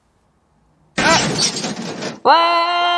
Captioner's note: car crash!!! 🫣